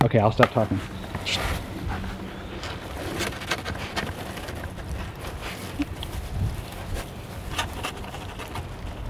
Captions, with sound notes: Okay I'll stop talking. (Kobe sniffs loudly)